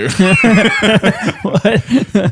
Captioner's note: laughter